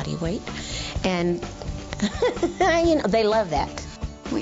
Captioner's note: laughs